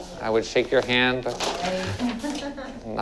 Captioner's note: laughs